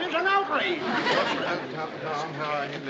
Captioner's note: audience laughs